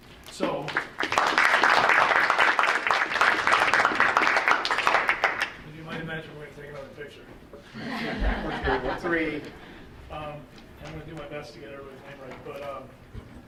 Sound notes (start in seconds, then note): 0.7 audience applauding; 7.7 audience chuckling